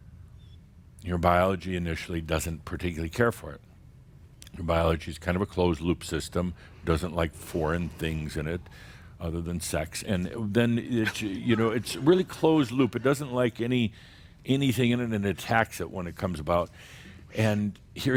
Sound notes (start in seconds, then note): 10.2 a few chuckles